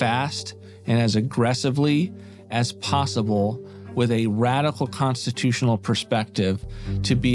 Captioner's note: none